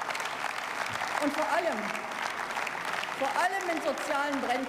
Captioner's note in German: Beifall